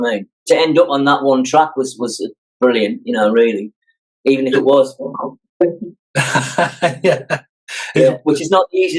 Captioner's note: mimes drum part